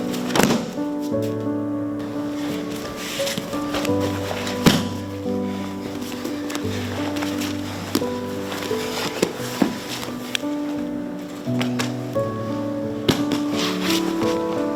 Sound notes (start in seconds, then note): 0.0 thudding; 4.6 thudding; 7.0 both breathing heavily